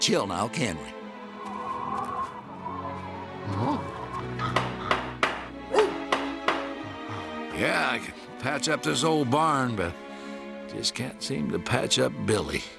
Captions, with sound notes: NOW, CAN WE? [WIND HOWLING] [WOOF] YEAH, I CAN PATCH UP THIS OLD BARN, BUT JUST CAN'T SEEM TO PATCH UP BILLY.